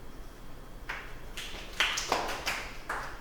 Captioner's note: clapping